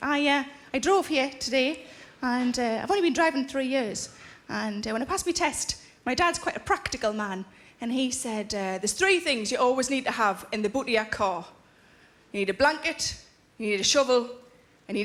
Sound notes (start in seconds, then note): none